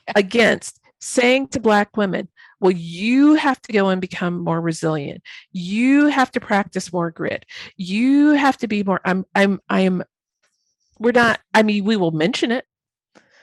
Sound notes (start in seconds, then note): none